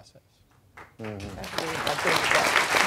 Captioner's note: applause